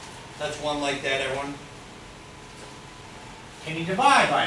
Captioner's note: speaks softly